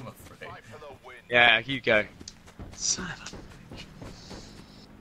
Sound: sounding disappointed

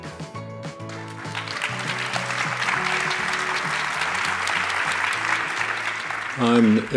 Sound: applause

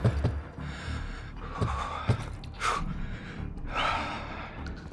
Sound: heavy breathing

